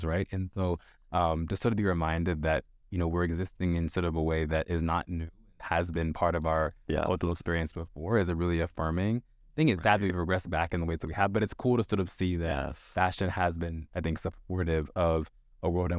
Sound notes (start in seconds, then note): none